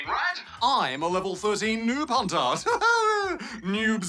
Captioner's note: laughs